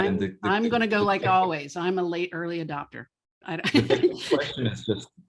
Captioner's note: laughs